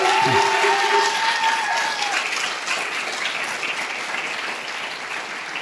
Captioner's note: audience cheering and applauding